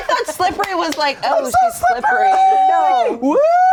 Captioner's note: screaming